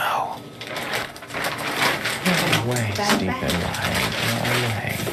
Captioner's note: paper rustling